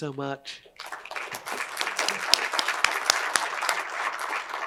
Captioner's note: crowd applauds